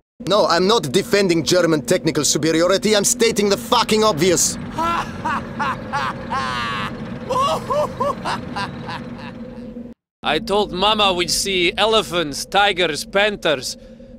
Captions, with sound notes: No I'm not defending German technical superiority I'm stating the GARDENING OBVIOUS! *medic_laughlong02.wav* I told mama we'd see elephants, tigers, panthers...